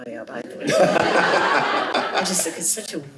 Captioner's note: chuckles